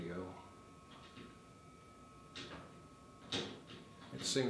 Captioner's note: object tapping randomly